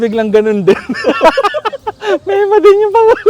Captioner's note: laughs